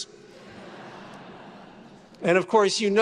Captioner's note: attendees laughing